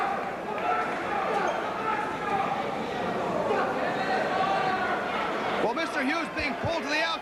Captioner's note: crowd chatter